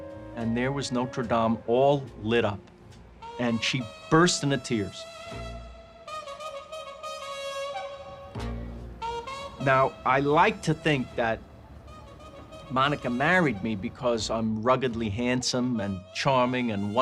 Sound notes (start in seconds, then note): none